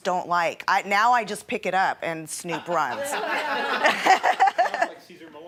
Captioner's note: laughing